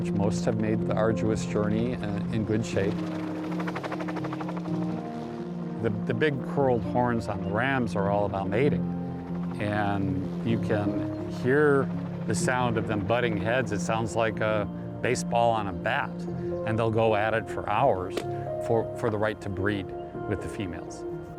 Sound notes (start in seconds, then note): 3.8 helicopter blades whirring